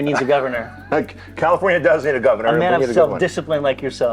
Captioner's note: laughs